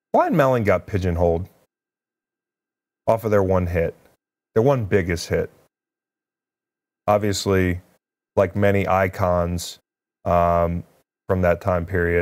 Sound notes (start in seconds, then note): none